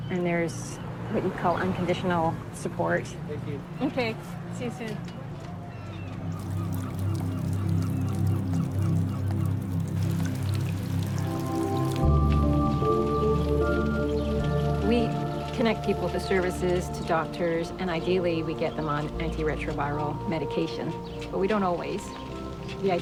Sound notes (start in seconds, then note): 6.4 rain pelting; 6.4 soft ambient music